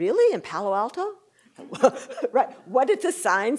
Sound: laughter

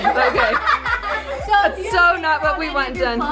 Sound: laughter

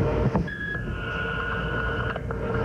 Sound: beep

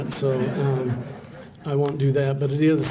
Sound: laughter

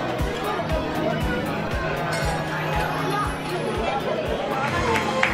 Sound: overlapping chatter

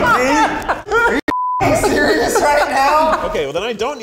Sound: laughing; beep

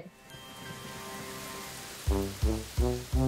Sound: rain pattering; upbeat music

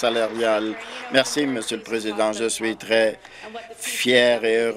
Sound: applause

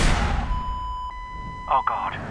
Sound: gunshot; beeping

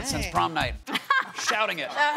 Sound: laughter

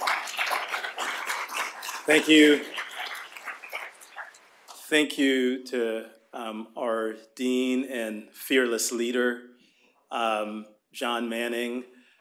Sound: applause

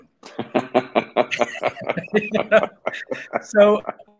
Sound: both laughing

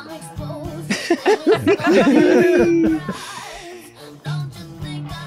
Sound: everyone laughs

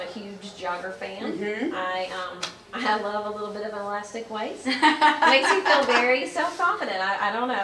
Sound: laughs

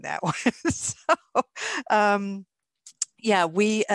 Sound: laughs

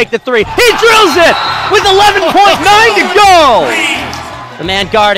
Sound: audience cheering

